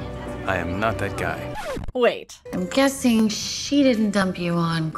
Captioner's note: record scratch